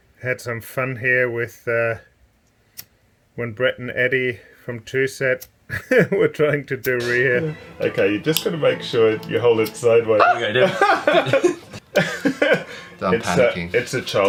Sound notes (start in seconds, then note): 10.4 man gasps